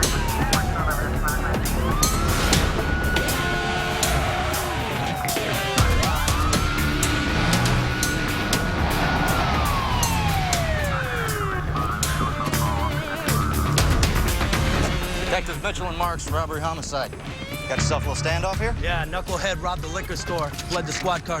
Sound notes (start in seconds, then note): 0.3 sirens blaring; 4.0 tires screech